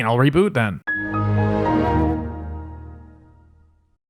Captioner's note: Windows XP Shutdown Sound